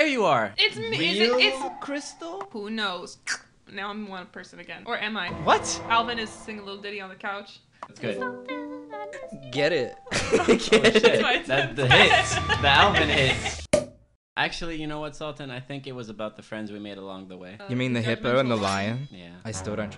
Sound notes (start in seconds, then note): 3.2 slurping sound; 8.9 singing gibberish; 10.1 all laughing